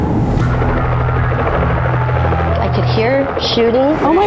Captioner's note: helicopter flying; police sirens